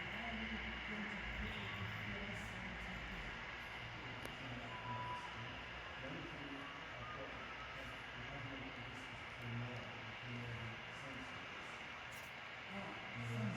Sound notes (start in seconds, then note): 1.9 F7B's mover still heard in the distance